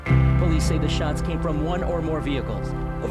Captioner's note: voiceover